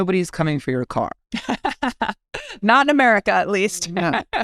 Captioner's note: laugh